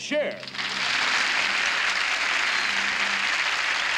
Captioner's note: applause